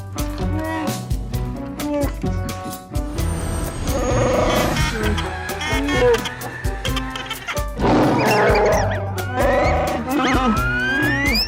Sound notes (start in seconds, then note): 3.9 Chewbacca sounds; 7.8 Chewbacca roar